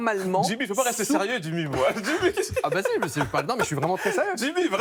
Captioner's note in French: rires